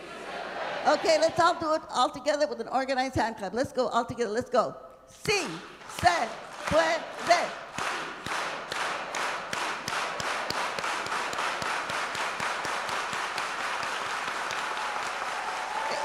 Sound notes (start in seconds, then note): 0.0 speaking Spanish; 7.9 speaking Spanish; 11.3 applause